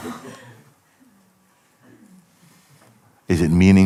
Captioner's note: laughter